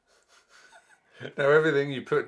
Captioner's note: laughs